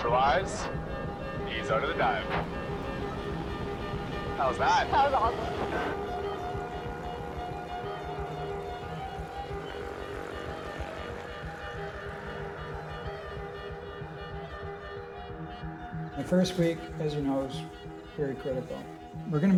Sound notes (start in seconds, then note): 6.0 pulsing dramatic music continues; 10.4 airplane rumbles